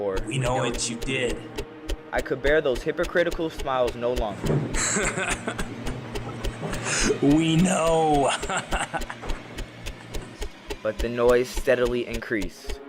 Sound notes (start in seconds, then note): 4.7 laughing; 7.6 even more laughing